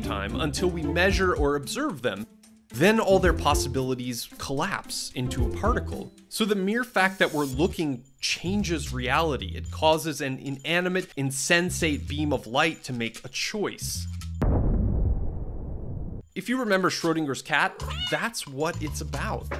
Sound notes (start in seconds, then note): 14.4 air explosion; 17.6 cat meowing